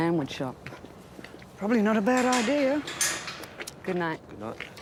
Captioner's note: locks clang